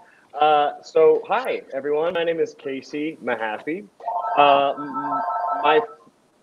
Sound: phone rings

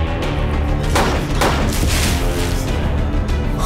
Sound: gun firing

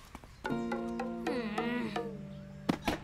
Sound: groans

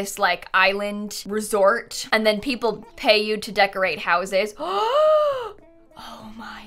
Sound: gasps

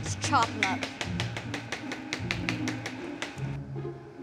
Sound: chopping

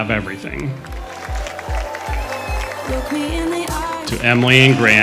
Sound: crowd cheering

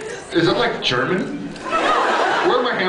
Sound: laughs

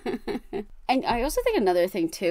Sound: wheeze laughs

